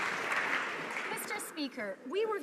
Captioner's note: some Applause